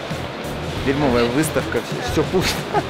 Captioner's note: laughs